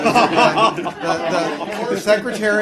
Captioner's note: laughter